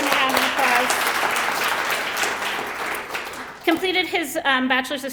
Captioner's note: applause